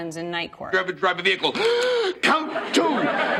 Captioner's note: gasps